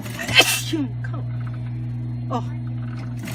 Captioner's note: sneezing